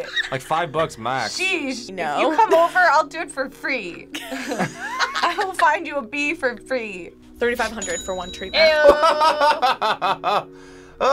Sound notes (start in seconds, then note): 4.1 group laughs; 8.7 laughs